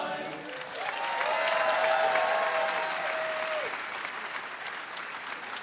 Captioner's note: attendees cheering and applauding